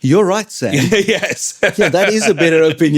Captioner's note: laughing